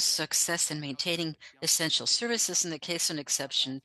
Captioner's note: speaking French